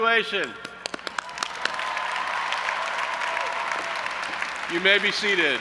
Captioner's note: audience applauding and cheering